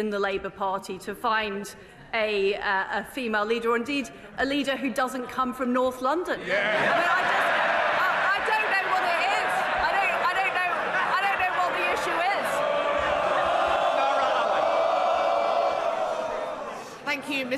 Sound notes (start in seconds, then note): 6.4 laughter